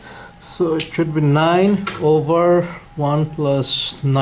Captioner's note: voiceover